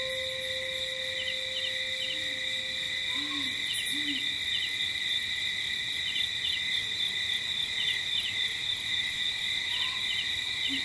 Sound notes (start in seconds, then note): 3.8 owl hooting; 6.1 crickets chirping